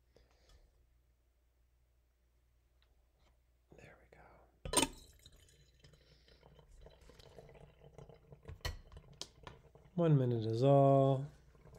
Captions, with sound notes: There we go. (glass clinking) (coffee draining) One minute is all.